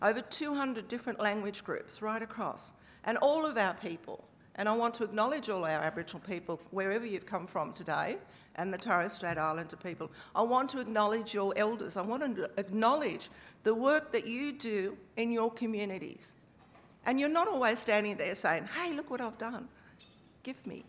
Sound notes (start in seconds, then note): none